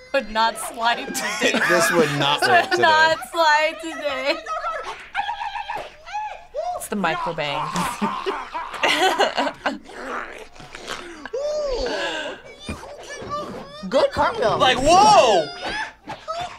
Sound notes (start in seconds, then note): 8.1 laughs